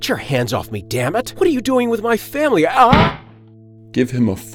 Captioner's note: shouts